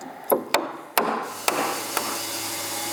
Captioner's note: whirring sound, hammering